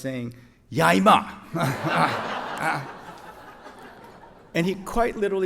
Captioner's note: speaking foreign language